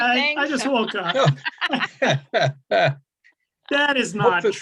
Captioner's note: laughing